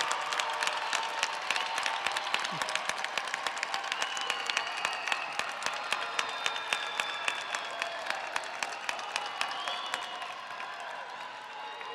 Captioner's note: audience applauding; audience cheering